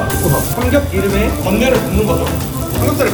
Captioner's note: sizzling